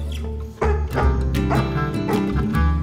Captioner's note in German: Bellen, freudige Musik